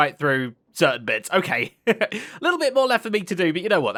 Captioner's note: chuckles